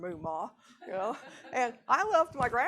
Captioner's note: audience laughing